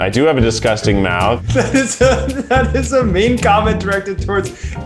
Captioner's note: laughs